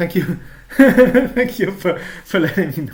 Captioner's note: chuckling